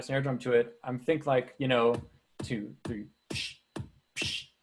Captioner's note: mimicking snare drum